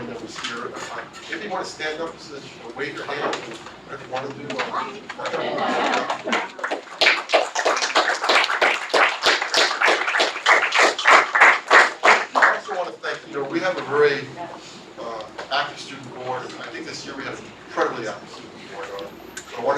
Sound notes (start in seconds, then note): 5.2 laugh; 8.6 applause